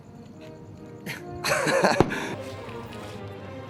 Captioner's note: laugh